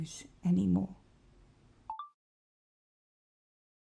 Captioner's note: chime of a phone recorder turning off